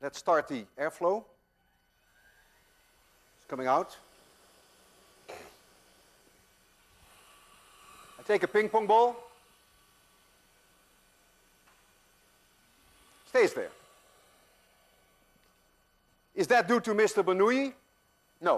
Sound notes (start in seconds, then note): 1.9 machine starts; 6.0 air hissing